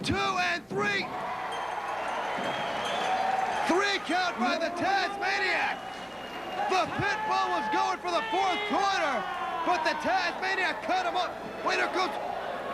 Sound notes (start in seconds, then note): 1.4 bell ringing; 3.7 crowd cheering